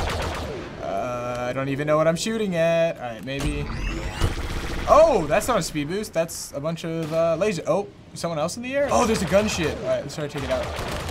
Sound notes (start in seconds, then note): 3.5 rapid lasers